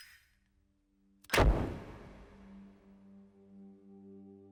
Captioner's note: lighter ignites